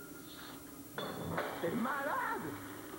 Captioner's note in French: Bruit de verre brisé